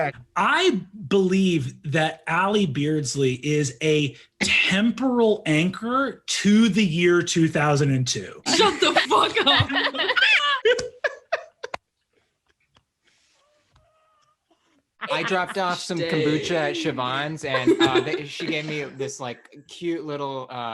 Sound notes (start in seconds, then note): 8.6 utter silence as everyone revels in the post-glory of husky impression